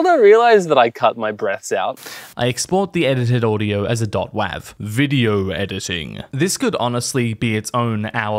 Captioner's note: very loud breath. comedy